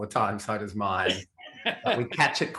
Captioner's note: laughs merrily